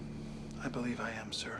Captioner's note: none